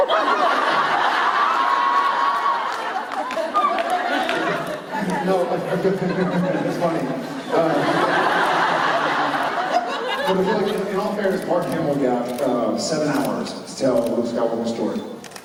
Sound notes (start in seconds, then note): 0.1 laughter and cheers; 5.6 Jared laughing; 7.6 laughter